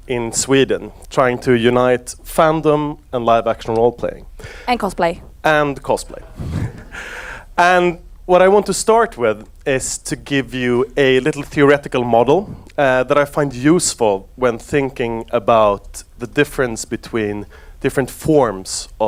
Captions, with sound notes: in Sweden, trying to unite fandom and live action role-playing. - And cosplay. - And cosplay. (laughs) And what I want to start with, is to give you a little theoretical model that I find useful when thinking about the difference between different forms